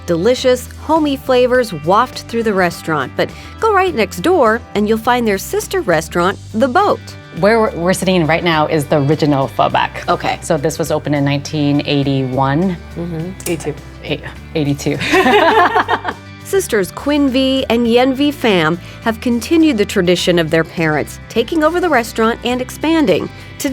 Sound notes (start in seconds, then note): 15.0 both laughing